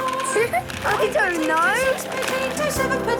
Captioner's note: laughing